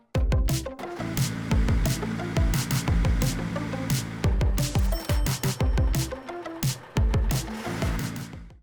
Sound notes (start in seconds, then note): 0.0 upbeat music plays with the sounds of a large truck driving; 4.8 truck braking to a stop and a cash register drawer opening sound effects; 6.6 truck engine idling; 7.1 truck driving past, music fades